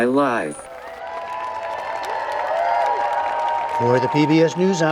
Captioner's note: through electronic voice; cheering